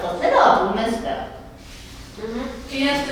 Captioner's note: nodding, Gasping